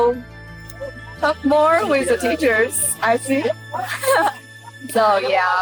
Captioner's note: laughing